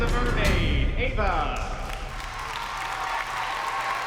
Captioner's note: cheering and applause